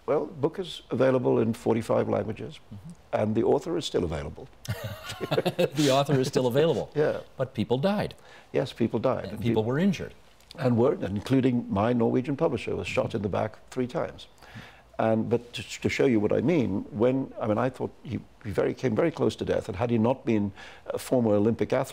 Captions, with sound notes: Well, the book is available in 45 languages and the author is still available. (Chuckling) The author is still available. Yeah. But people died. Yes, people died. And people were injured. And were, including my Norwegian publisher was shot in the back three times. But to show you what I mean, when-- I mean, I thought-- he came very close to death, and had he not been a former Olympic athlete,